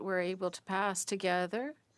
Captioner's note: speaking French